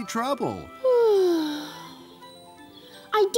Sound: sigh

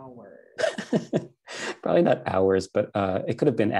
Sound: laughing

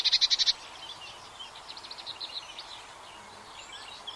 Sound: animals chittering; birds chirping

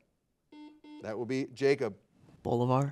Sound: buzzer beeping

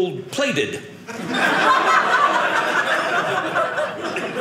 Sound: audience laughing

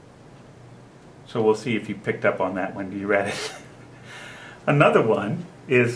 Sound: laughs

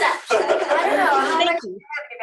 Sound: laughter

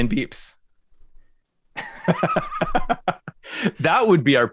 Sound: laughter

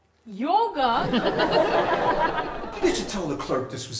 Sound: audience laughs

